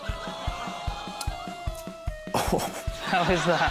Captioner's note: laughter